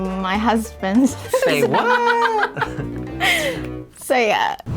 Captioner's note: laughing